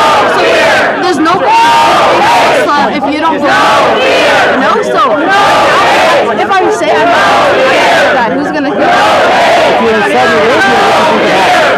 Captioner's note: shouting